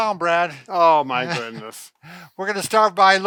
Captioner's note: laughing